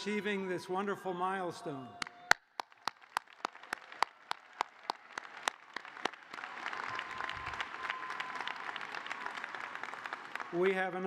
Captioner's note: applause